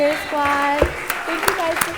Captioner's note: audience applauding